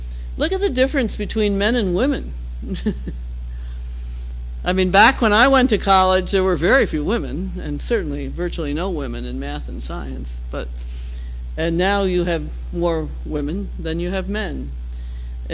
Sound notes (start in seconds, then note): 2.6 laugh